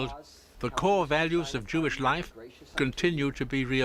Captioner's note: speaking hebrew